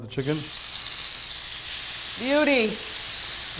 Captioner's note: grill sizzles